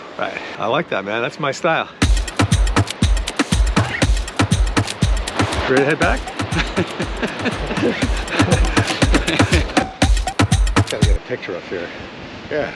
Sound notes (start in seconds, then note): 2.0 energetic music; 6.4 Brian laughs